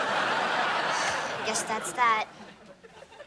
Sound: sighs

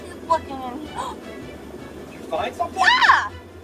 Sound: assistant gasping

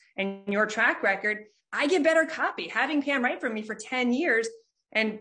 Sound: none

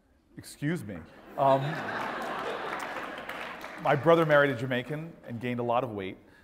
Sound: laugh

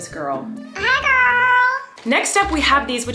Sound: makes doll voice

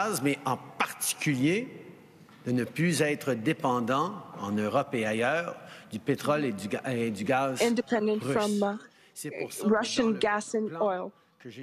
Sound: speaking in French

